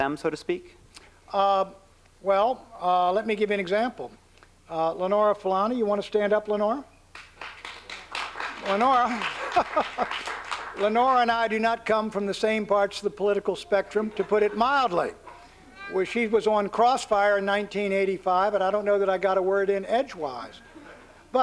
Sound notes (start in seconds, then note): 7.1 applause; 8.3 laughs